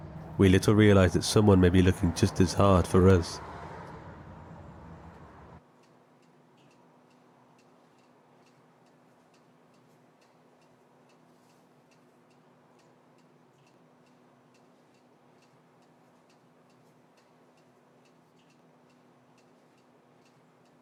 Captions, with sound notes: we little realize that someone may be looking just as hard for us. (car whooshing) (clock ticking)